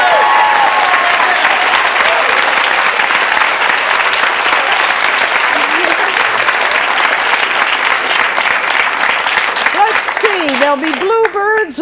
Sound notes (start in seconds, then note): 0.1 audience clapping; 5.5 giggles